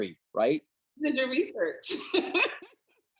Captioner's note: laughing